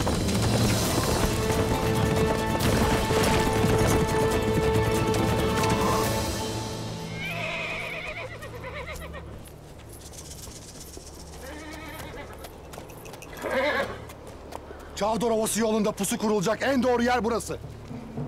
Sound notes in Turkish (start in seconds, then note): 7.1 At kişneme sesi; 13.3 At kişneme sesi